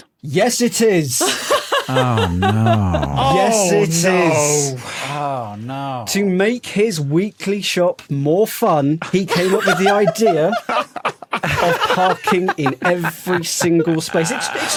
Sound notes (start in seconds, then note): 1.3 laughs uproariously; 9.2 others laughing